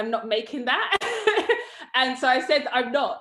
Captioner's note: laughs